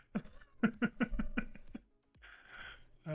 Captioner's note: laughs